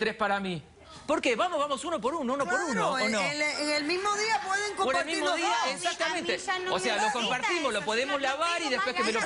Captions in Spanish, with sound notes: ¿POR QUE SIEMPRE TIENE QUE SER CUATRO PARA ELLA Y TRES PARA MI? ¿POR QUE? VAMOS UNO POR UNO, UNO POR UNO. ¿O NO? [RISAS] >>CLARO. EN EL MISMO DIA PUEDEN COMPARTIR LOS DOS. [HABLAN AL UNISONO]